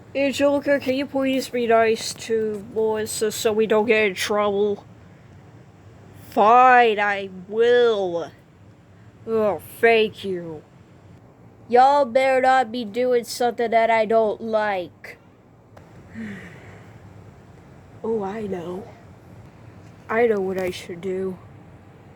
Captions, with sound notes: Angelica Can You Please Be Nice To Melissa So We Don't Get In Trouble? Fine I Will Oh Thank You Y'all Better Not Be Doin' Somethin' That I Don't Like (Sighs) Oh I Know I Know What I Should Do